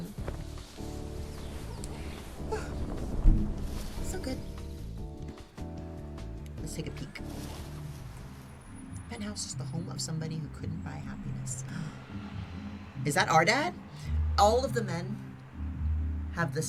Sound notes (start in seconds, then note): 13.8 gasps